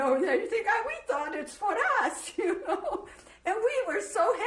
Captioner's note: laughs